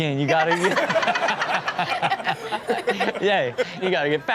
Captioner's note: everyone laughs